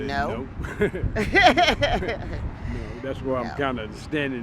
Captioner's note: laughs